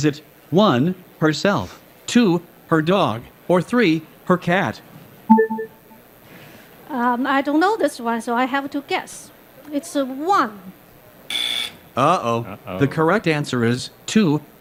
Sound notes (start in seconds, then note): 11.3 buzzer